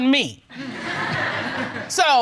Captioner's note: audience laughs